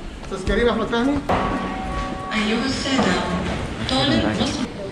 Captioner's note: airport announcements in Arabic